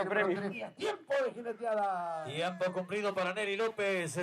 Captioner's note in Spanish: Audio hablado en español